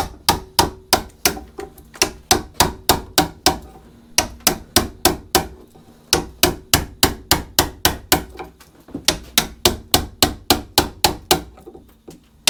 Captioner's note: hammering